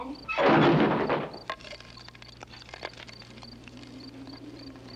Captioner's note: wood thuds